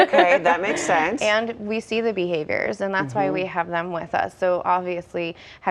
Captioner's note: laughter